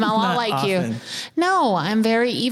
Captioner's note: laughing